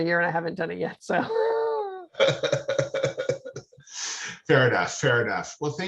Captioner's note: both laughing